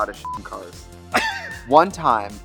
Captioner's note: Katya laughs